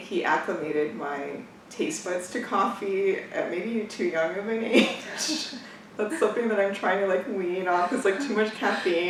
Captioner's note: laughs